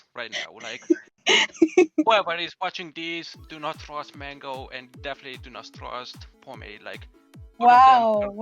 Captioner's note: laughing again